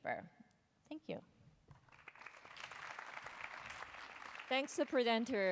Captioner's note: applause